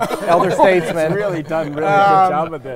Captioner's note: all laughing